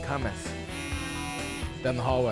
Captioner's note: Handyman buzzing